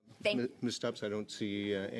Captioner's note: speaking French